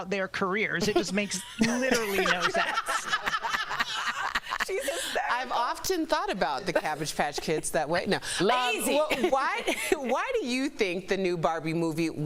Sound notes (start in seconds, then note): 5.6 laughter